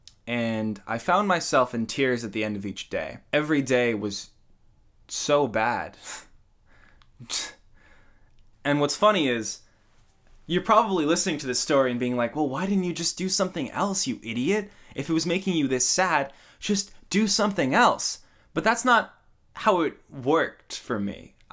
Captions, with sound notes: And I found myself in tears at the end of each day. Every day was... so bad. *Scoffs of disbelief* And what's funny is? You're probably listening to this story and being like "Well, why didn't you just do something else you idiot?" "If it was making you this sad, just do something else!" but that's not how it worked for me.